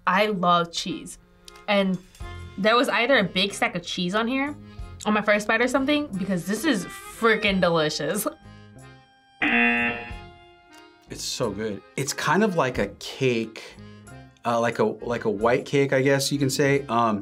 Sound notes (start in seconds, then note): 9.4 buzzer rings